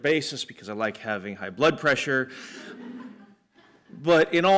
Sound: laughter

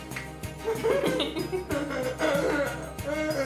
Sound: laughing

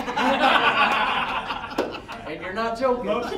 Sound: all laughing

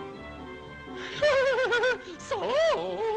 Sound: laughs

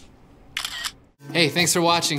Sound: camera clicks

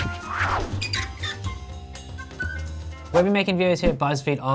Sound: upbeat music; Buzzfeed logo creaking

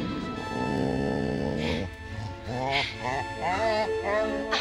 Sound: dog whining

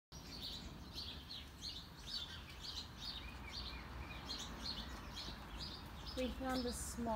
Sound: birds Chirping

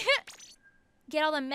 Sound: laughs

